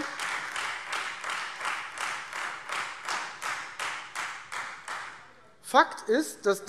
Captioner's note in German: Beifall Freie Demokraten